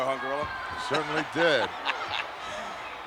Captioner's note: laughing